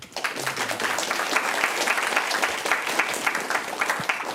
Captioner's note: applause